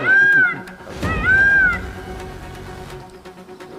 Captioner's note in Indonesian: berteriak